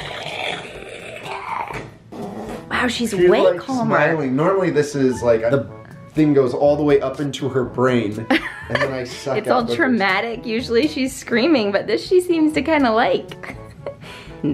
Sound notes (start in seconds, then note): 2.1 blows; 8.3 laughs; 13.3 giggles